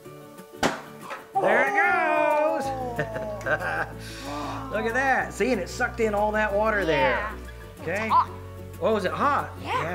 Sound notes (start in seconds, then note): 0.5 pop; 2.6 laughs